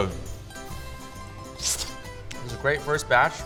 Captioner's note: slurping